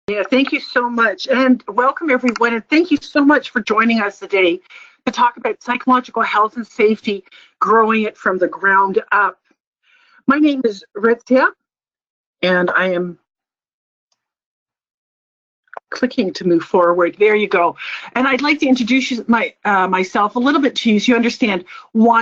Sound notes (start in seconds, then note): 12.3 pause